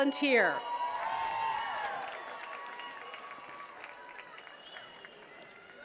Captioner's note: attendees cheering and clapping